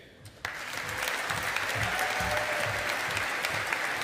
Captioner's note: audience applauding